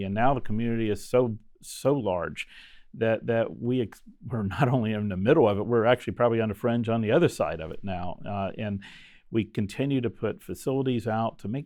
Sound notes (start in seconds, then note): 3.2 chuckles